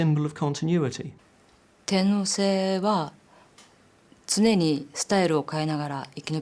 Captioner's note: speaking in Japanese